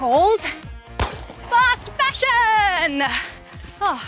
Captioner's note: starter pistol fires